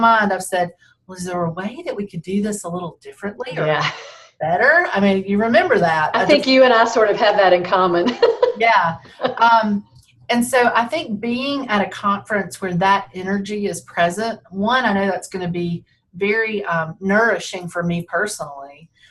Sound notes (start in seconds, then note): 3.6 laughs; 9.0 laughs